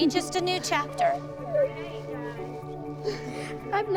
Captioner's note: girls sobbing